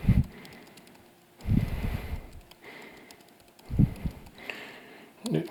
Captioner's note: silence